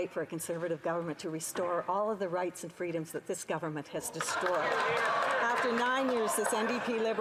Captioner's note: some Applause